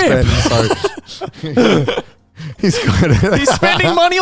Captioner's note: all laughing